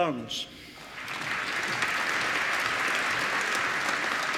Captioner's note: applause